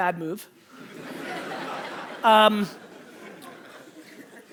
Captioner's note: audience laughter